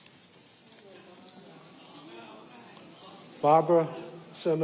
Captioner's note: audience murmuring appreciatively